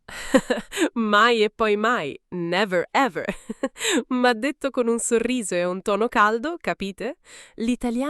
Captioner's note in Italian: risate